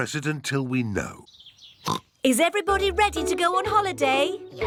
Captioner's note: oinks